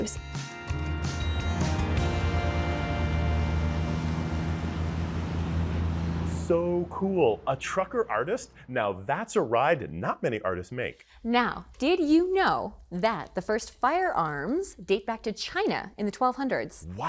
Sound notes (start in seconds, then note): 0.0 upbeat acoustic music; 3.2 truck driving away